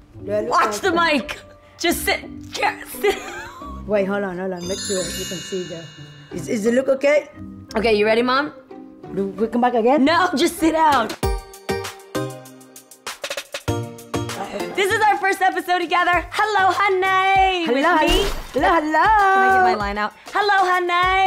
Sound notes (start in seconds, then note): 3.0 laughs; 11.1 upbeat hip hop music